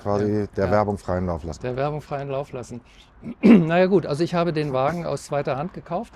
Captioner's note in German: räuspern